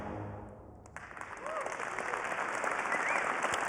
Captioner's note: applause